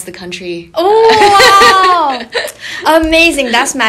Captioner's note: laughing